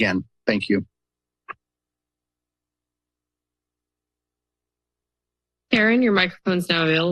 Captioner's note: silence